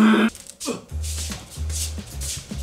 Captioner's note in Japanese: 足音